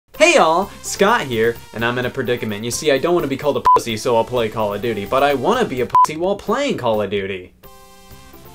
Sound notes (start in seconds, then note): 3.6 beep; 5.9 beep; 8.3 electronic music